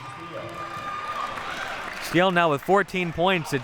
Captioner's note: audience applauding and cheering